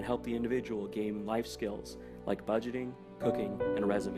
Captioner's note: none